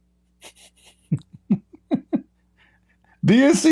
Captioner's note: Ketawa